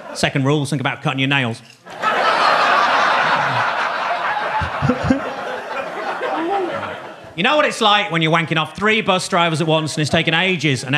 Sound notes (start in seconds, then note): 1.8 audience laughing; 4.5 Gary chuckling